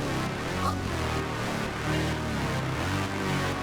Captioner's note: dramatic music; all choking; dramatic music